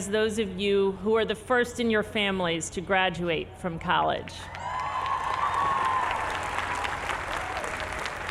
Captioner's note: applause